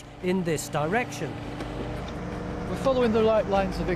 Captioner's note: digger whirring